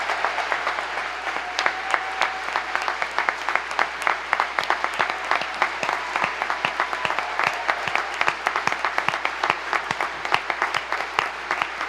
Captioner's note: applause